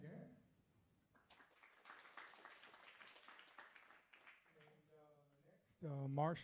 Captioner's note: applause